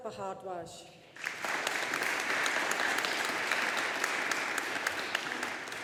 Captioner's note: audience applauding